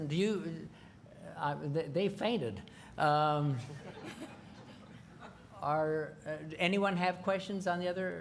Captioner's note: laughter